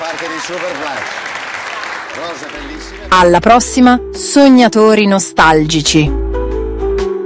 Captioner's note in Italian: applauso